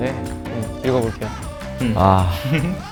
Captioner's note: hesitant